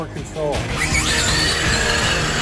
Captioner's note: tires whirring; upbeat music